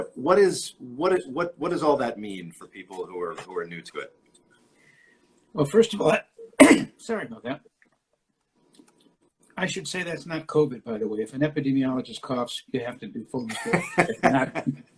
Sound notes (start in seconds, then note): 6.4 coughs